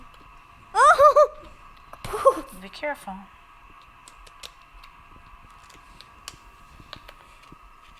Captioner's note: laughing